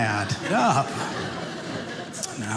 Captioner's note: audience laughing